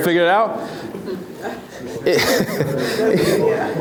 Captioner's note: laughs